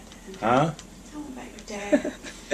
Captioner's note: whispering; giggling